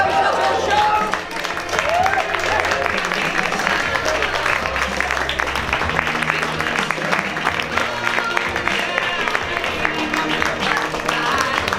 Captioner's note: applause